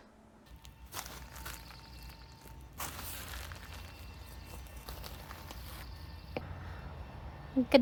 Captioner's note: fir needles crunching underfoot, birds singing